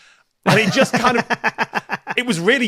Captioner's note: laughs heartily